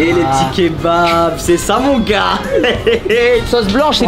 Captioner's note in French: rire